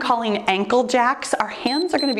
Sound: timer beeps

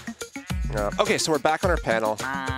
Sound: sheep bleats

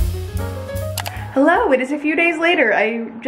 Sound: mouse clicks

